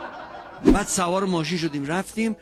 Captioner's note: laughter